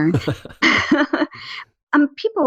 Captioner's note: laugh